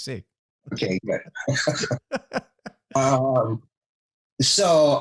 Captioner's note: both laughs